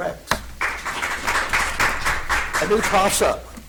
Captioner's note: audience applauds